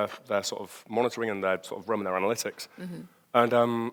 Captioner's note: murmurs